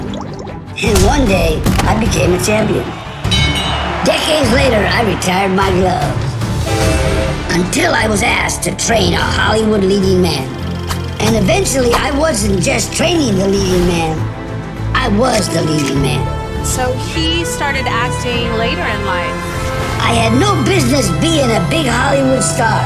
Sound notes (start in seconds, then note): 3.3 ding